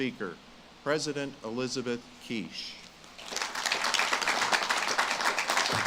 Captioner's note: audience claps